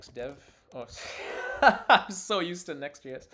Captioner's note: laughs